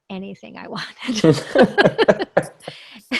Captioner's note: laughs